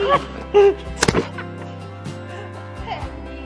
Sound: laughing

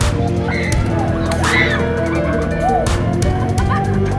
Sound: screaming

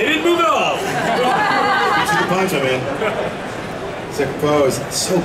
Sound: audience laughing

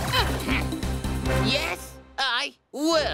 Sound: energetic music; grunts

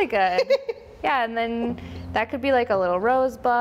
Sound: woman laughs

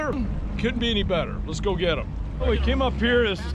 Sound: boat engine running

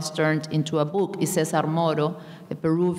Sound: speaking in a foreign language

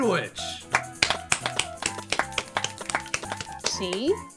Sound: studio audience clapping

